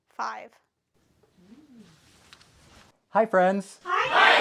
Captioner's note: belly Noises